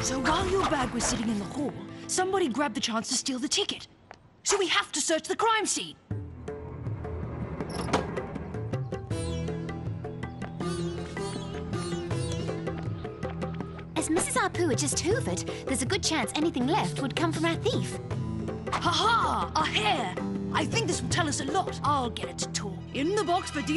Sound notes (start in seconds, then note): none